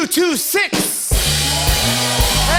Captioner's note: cheers and applause